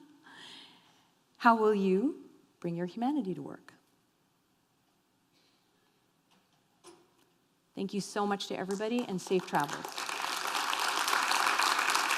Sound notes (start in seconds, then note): 10.0 applause